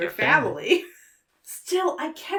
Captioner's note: chuckles